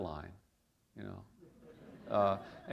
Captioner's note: chuckle